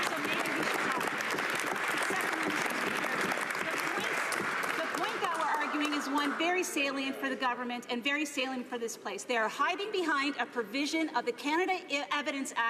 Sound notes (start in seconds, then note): 5.9 some Applause